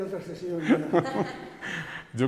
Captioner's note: they laugh